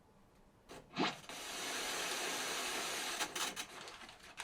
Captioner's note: static